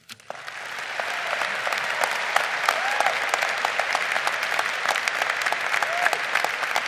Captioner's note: lead applauding